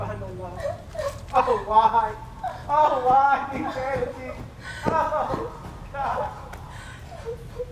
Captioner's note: weeping